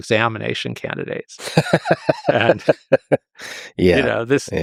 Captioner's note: Lex laughs